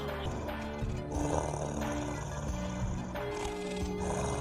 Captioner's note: she groans; bear growls